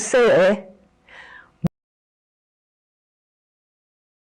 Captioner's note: sound drops out